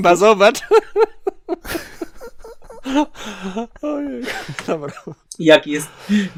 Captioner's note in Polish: śmiech